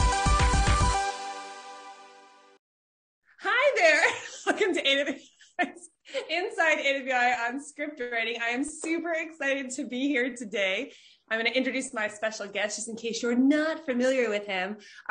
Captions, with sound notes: Hi, there! (laughs) Welcome to another episode of "Inside AWAI" on script writing. I am super excited to be here today. I'm gonna introduce my special guest just in case you're not familiar with him.